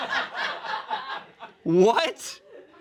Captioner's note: friends laugh